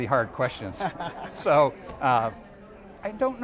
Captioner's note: laughs